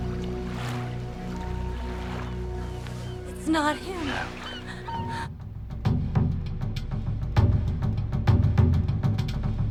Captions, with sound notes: - It's not him. - No. (boat horn honking)